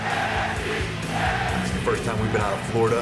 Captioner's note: fans chanting